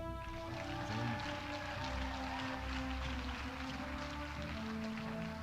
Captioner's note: audience applauding